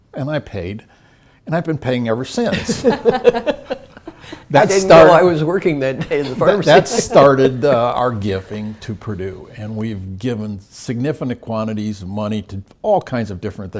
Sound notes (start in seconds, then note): 3.0 laugh